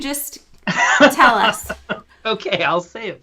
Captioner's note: laughter